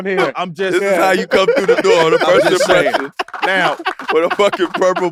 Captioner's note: laughs